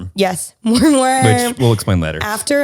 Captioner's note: laughing